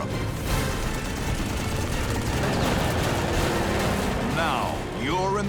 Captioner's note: gunfire